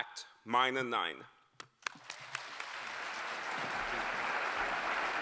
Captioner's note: applause